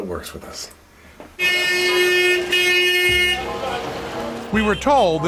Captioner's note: traffic noise